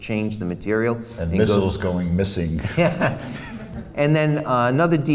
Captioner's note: laughs